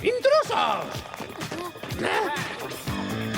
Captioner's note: gasp